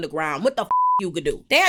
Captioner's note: beep